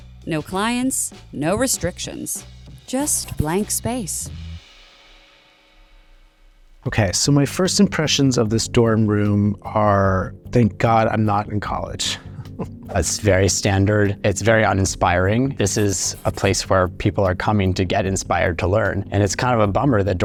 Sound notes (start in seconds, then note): 12.3 chuckles